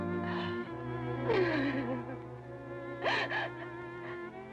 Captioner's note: Sheila sobbing